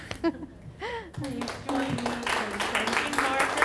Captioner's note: audience applauding